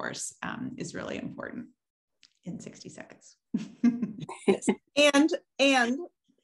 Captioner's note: laughs